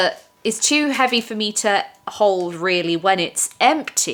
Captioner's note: none